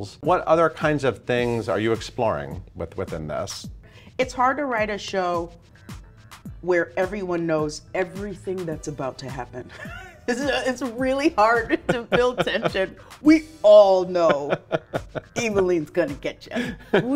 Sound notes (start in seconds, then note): 9.7 laughs